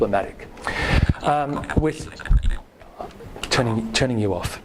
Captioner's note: rapid robotic speaking; laughing